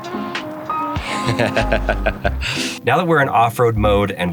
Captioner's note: chuckles